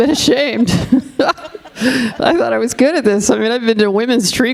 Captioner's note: all laughing